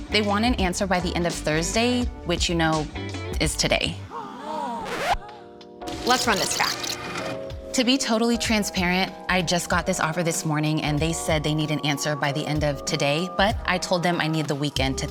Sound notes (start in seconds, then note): 4.4 people gasping; 4.4 record scratches